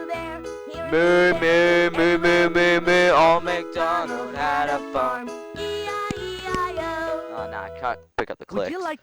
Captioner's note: singing; MOO-ing to the song